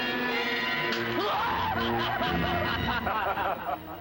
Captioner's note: screaming; laughing